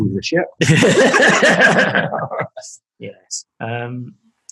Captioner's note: laughing